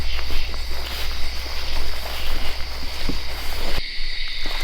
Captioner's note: insects chirp